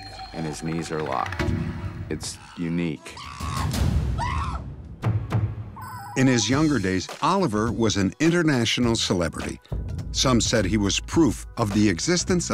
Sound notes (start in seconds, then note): 2.2 chimp yelling